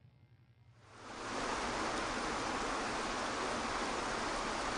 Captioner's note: water flowing